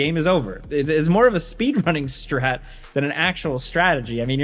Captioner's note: laughing